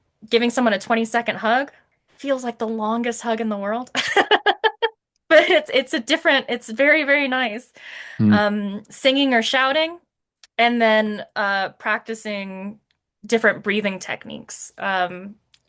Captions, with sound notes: Giving someone a 20-second hug, feels like the longest hug in the world. (laughs) But it's very, very nice. Singing or shouting, and then practicing different breathing techniques,